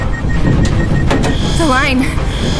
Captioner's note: system beeping